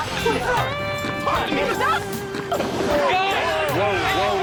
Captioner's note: shouting